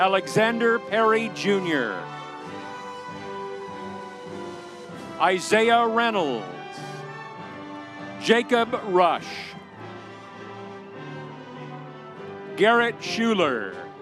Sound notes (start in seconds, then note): 2.6 audience cheering; 7.0 audience cheering